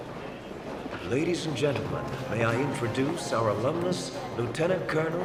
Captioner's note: man On P.A